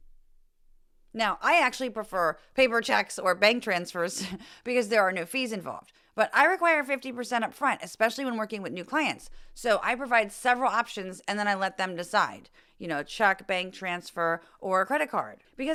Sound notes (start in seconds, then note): 4.2 laugh